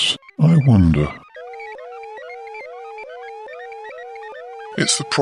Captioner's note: alarm sounds